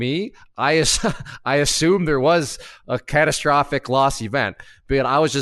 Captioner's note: laughs